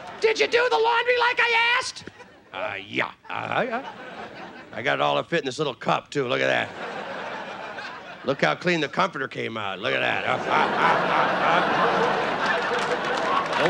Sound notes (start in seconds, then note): 3.3 playful grunting; 6.5 audience laughing; 10.1 audience laughing; 10.4 playful grunting